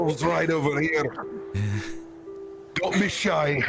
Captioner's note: laughs